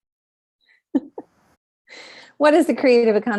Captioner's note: chuckles